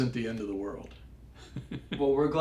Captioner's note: laugh